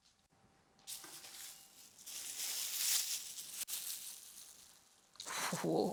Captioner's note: plastic bag crinkles